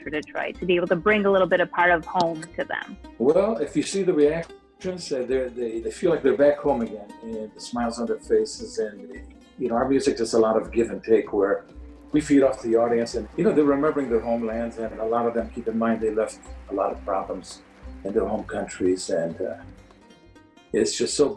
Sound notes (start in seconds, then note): 3.2 laughs; 10.1 high strung oud music